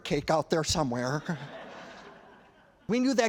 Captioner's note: laughter